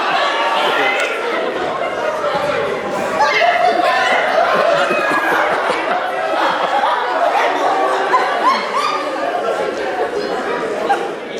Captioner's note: laughter